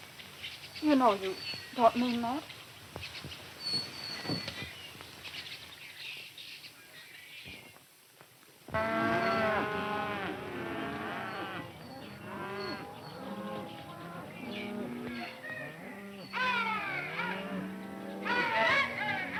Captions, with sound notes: - You know you don't mean that. (cattle mooing) (cowboys yelling)